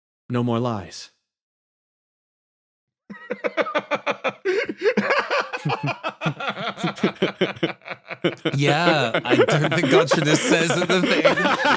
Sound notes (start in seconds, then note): 2.9 laugh